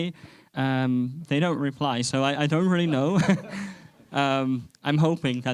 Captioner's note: chuckles